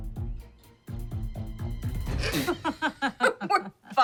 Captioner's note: both laugh